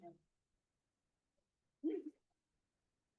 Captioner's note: laugh